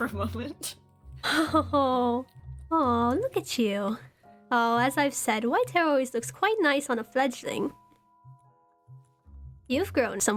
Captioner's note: laughs